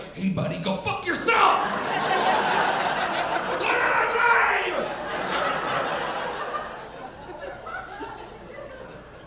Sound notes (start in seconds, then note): 1.5 audience laughing